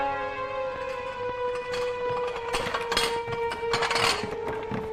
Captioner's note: objects clinking